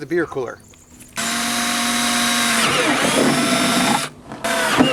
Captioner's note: drill whirring